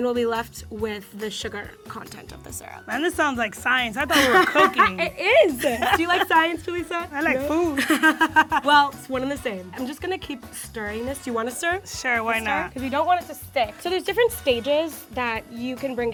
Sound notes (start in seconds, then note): 4.0 laughs